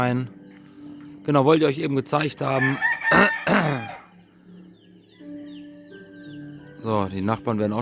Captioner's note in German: husten; räuspern